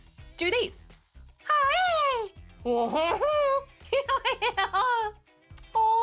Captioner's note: makes nonsensical sounds